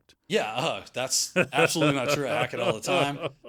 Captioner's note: laughs